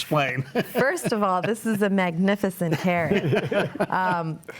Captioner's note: laughs